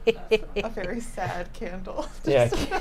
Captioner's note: snickers; laughs